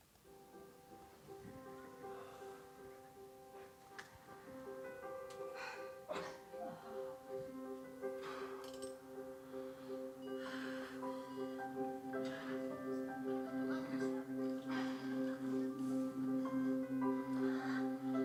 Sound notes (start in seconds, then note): 1.0 video playing of people breathing audibly